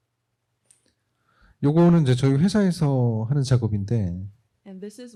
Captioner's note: speaking korean